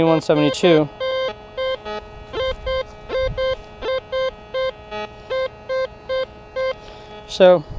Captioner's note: detector beeps